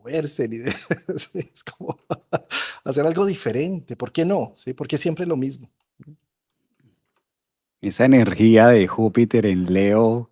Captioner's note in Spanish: risas